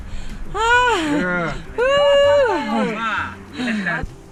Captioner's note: cheering